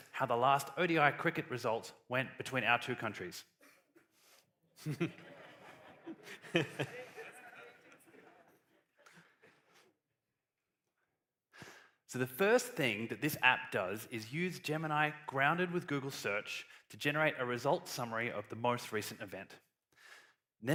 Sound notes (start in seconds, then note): 4.8 laughter